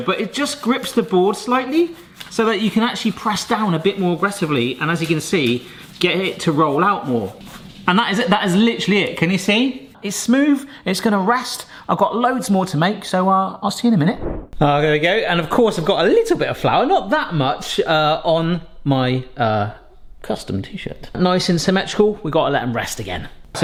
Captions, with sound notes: but it just grips the board slightly, so that you can actually press down a bit more aggressively. And as you can see, get it to roll out more. And that is it. That is literally it. Can you see? It's smooth. It's gonna rest. I've got loads more to make, so I'll see you in a minute. (screen wipe whooshes) Oh, there we go. And of course I've got a little bit of flour, not that much, on my uh... custom T-shirt. Nice and symmetrical. We've gotta let 'em rest again.